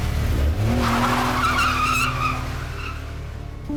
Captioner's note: car peels out